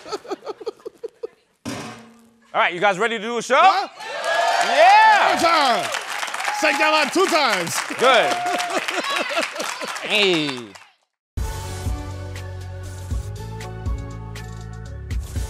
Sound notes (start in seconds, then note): 4.0 cheering and applause